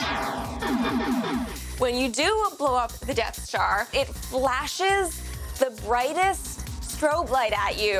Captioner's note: artillery fire